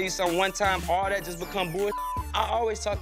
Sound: beep

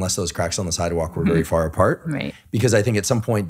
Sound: laughing

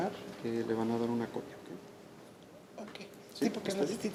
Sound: speaking Spanish

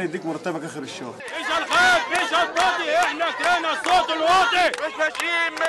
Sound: chants

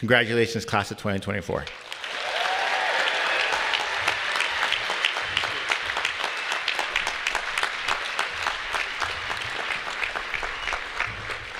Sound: applause

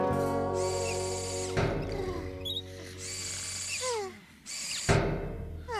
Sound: soft Snores & Clangs

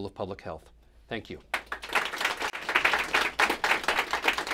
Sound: applause

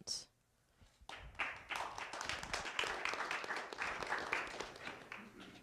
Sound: applause

